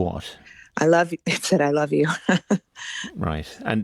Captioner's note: laughs